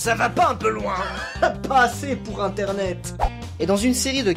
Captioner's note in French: rire